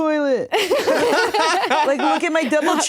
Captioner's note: laugh